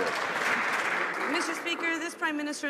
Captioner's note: some Applause